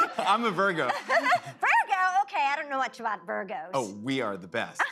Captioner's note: laughs